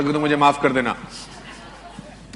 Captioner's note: in Hindi